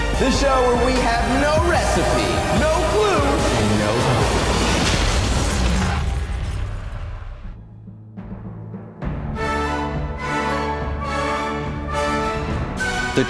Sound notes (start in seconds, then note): 3.2 flames bursting; 9.0 dramatic orchestra music begins